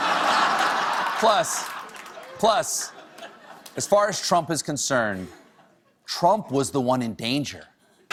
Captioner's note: laughter